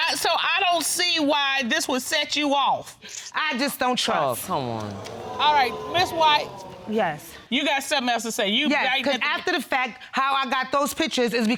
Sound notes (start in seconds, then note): 4.5 audience exclaiming